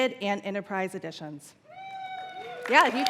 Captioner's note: cheers and applause